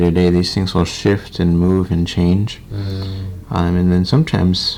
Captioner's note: none